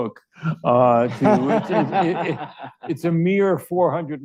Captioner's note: audience laughs